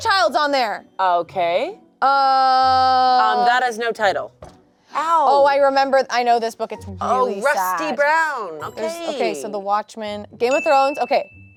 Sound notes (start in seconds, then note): 4.5 elbow thuds